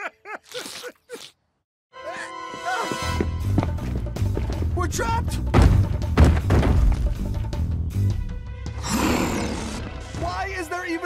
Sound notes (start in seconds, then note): 0.0 laughing; 0.4 slurping; 5.5 stomping; 8.8 roaring